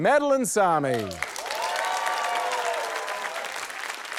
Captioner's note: cheering